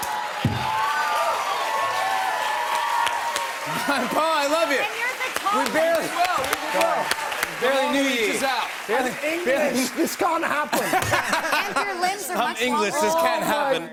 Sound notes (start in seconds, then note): 0.3 cheers and applause; 10.5 laughs